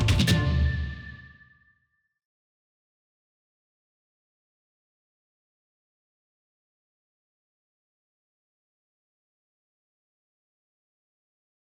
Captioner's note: silence